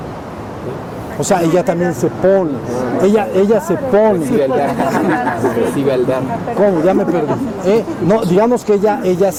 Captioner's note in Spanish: Risas